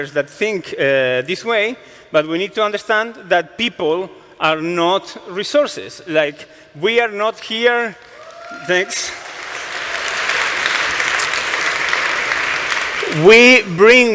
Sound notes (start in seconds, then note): 8.0 cheering